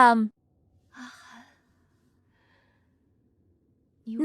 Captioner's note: sigh